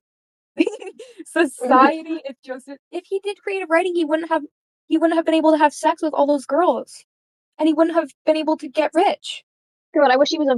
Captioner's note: laughs